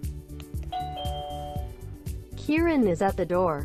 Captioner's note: doorbell ringing